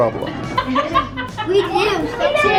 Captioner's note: laughing